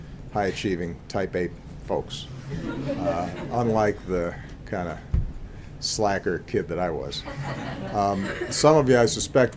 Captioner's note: laughter